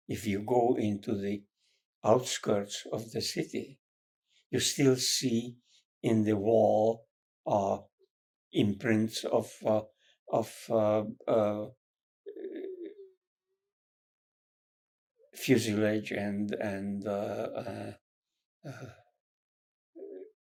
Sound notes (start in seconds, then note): 17.0 pauses 6 seconds